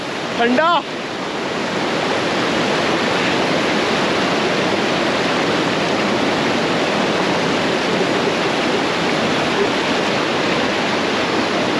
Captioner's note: water cascading